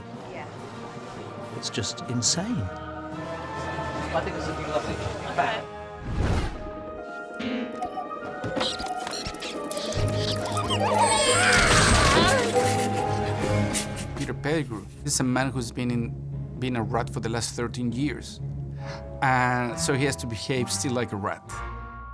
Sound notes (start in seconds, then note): 8.4 squeaking; 10.6 yells